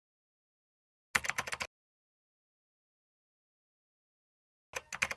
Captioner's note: keyboard typing